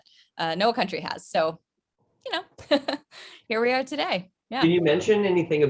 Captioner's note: chuckles